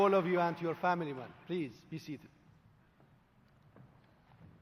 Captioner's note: applause